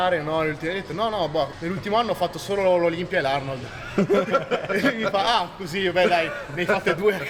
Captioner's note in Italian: risate